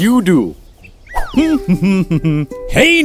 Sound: humming

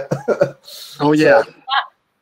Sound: laughs

